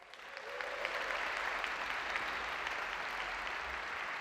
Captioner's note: audience applauds